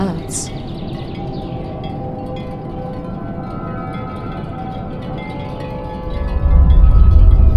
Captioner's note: birds tweeting; soft thoughtful music